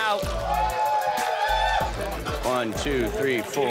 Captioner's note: cheers